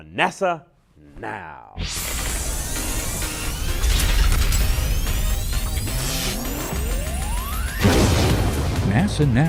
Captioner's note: sound Effects